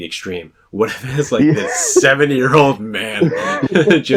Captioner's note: laughs